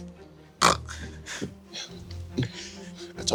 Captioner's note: snorts